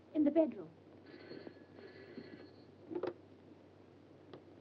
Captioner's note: phone rings